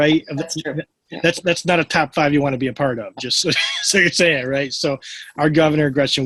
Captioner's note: laughs